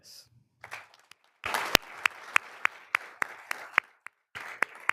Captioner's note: all applauding